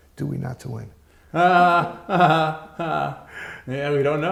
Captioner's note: chuckles